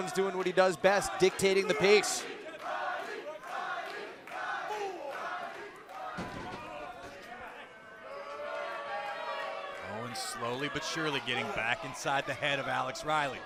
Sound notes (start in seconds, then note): 3.9 fans chanting; 9.7 cheers & boos